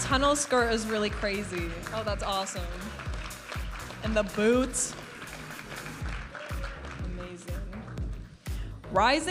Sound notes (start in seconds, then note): 0.0 vibrant music; 6.0 audience applauding and cheering; 8.3 vibrant music